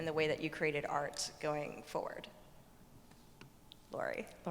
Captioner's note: none